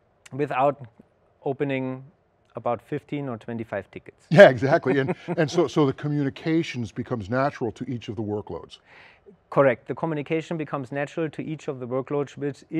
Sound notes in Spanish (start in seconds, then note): 4.4 risas